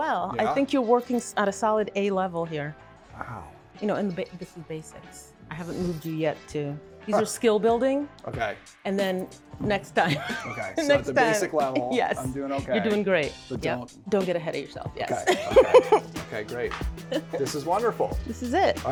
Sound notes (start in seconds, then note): 10.0 laughs; 15.2 laughs